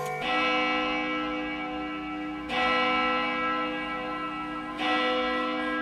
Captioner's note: grandfather clock chiming on bells